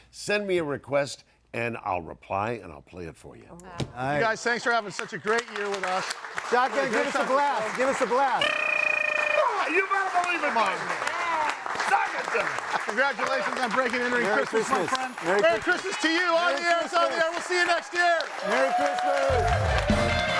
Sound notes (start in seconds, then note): 6.9 audience applauding; 8.4 blowing raspberries; 18.6 audience applauding; 19.2 audience cheering; 19.5 bright music